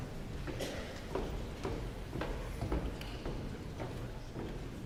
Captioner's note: footsteps tapping